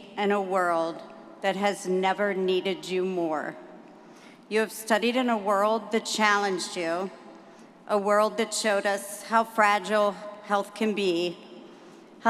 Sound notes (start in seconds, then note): none